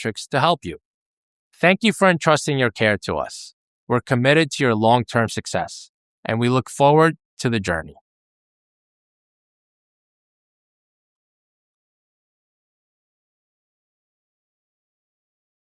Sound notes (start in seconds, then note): 8.7 silence